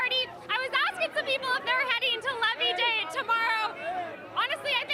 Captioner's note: cheering